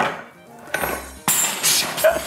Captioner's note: metal clatters; laughs